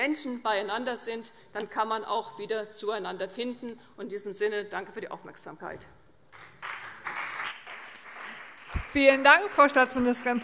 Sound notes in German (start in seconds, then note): 6.3 Beifall CDU